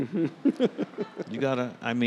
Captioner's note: host giggling